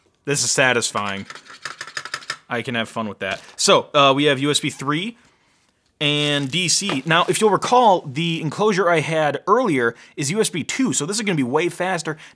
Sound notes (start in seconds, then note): 0.0 lid swishing